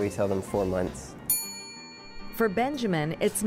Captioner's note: ding